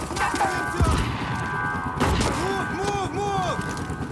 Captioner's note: alarm blaring